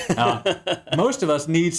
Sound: laughs

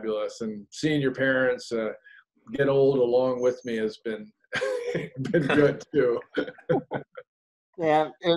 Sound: laughs

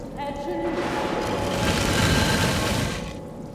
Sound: crashing

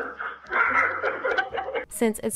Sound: laugh

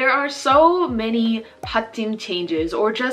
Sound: speaking Korean

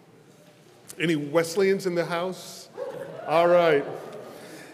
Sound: congregation cheers

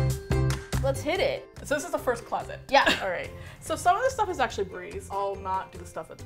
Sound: laughs

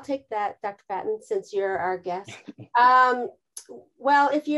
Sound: chuckles

